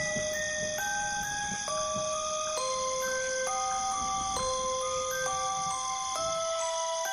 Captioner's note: crickets chirp, nervously